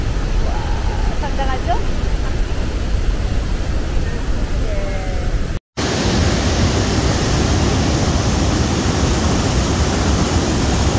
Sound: 😮Warning: There is a loud waterfall sound!

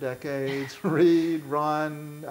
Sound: laughing

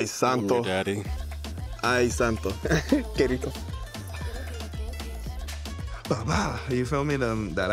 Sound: speaking in foreign language

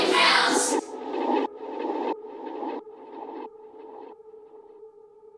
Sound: audio scratching

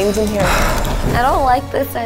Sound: sighing

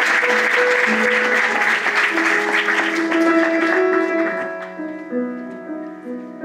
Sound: applause

